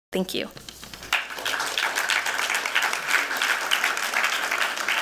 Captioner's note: applause